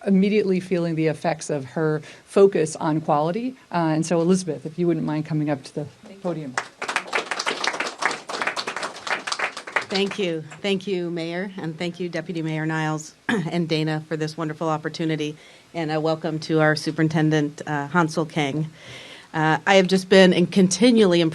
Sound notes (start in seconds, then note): 8.3 applause